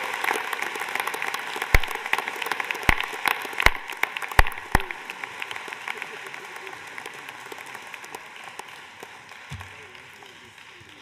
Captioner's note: applause